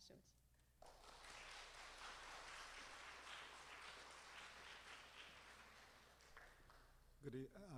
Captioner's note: applause